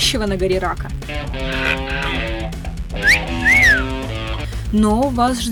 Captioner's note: cancer whistle